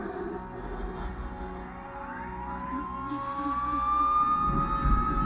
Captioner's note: sirens approaching